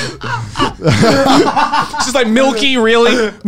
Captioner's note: all laugh